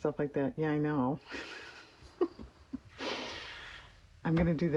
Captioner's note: laughs